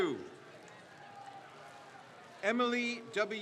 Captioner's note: crowd cheers